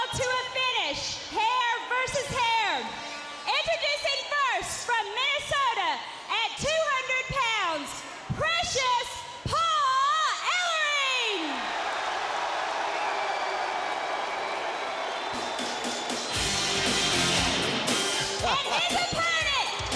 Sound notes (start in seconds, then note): 11.0 crowd cheering